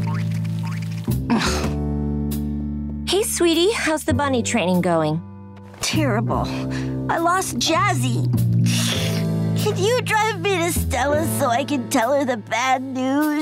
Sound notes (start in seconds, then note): 1.3 groaning